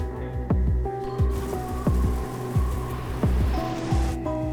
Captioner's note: wind